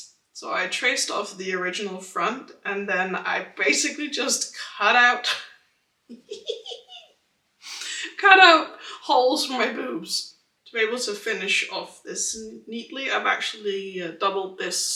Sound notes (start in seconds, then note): 6.1 laughing at my own idea